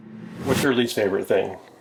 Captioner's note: logo whooshing